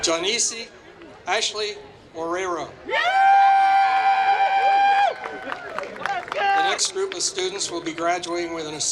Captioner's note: applause